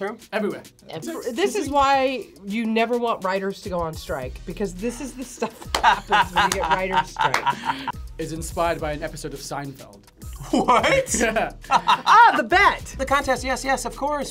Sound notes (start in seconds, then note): 5.4 laughs; 10.4 laughs